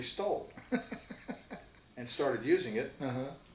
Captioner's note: laughs